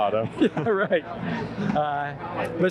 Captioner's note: laughs